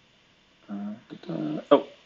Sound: humming

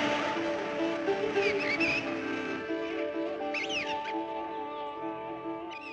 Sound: birds Chirping

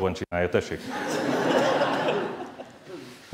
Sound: laughter

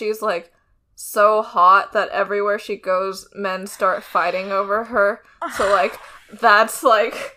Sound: groans

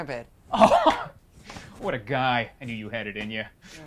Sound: laughs

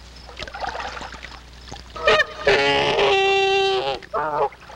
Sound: goose honking loudly

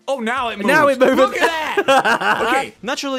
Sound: laughs

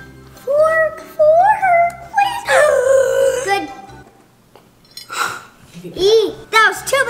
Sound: gasps

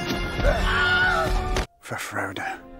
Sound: screams

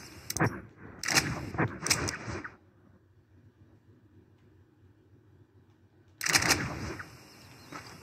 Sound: inventory and map noises

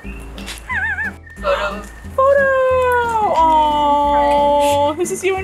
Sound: off-camera wheeze laugh; gasps

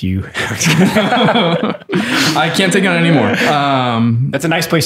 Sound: laughter

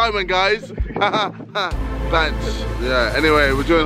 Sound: laughter

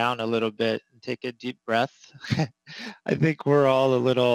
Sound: laughs

